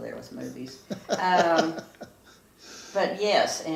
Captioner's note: chuckles